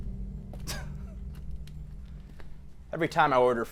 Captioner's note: customer scoffs